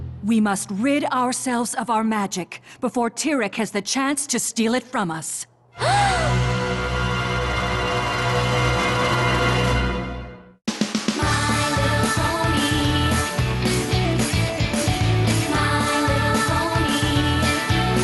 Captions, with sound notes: We must rid ourselves of our magic before Tirek has the chance to steal it from us. (gasp)